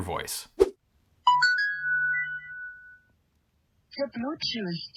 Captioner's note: notification bell ringing